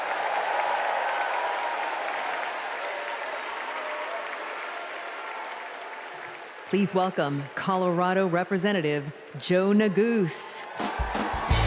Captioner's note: cheers and applause